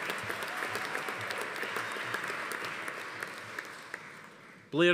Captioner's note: audience applauding; attendee cheering